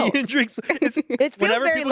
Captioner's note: laughs